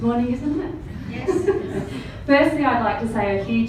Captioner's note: all laugh